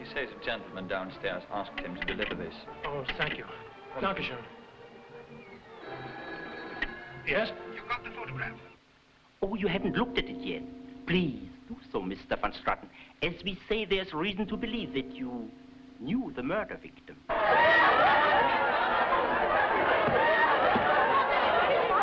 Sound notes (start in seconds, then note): 4.2 guy speaking foreign language; 5.8 phone ringing; 17.2 partygoers shouting and laughing